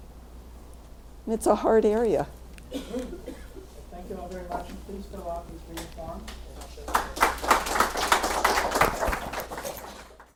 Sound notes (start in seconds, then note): 6.8 clapping